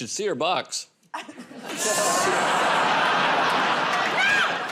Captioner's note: laughter